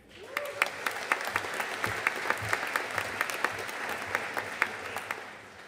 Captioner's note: audience cheering and applauding